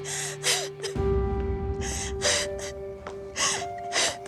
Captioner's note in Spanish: sollozos